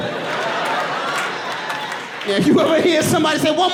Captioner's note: audience laughing